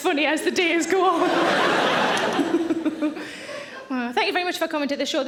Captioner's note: audience laughing; Sarah laughing